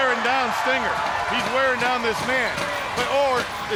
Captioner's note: chain fence rattling